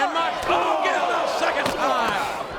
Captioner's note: audience groans